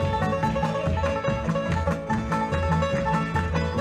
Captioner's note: audience clapping